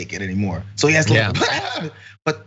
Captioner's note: laugh